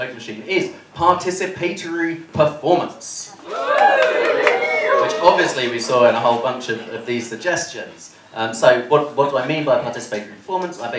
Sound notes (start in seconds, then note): 3.4 cheering